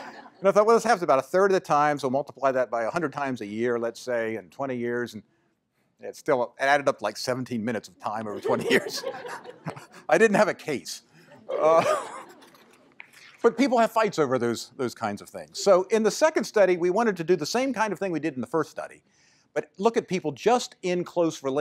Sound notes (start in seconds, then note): 8.3 laughter